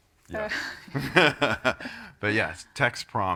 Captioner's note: laughs